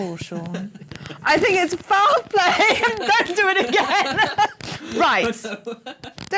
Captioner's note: laughing